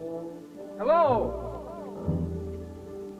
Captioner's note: echoing